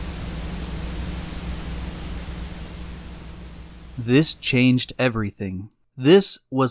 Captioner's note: Static